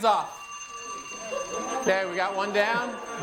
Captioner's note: ringer sounds